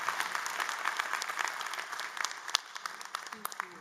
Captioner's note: applause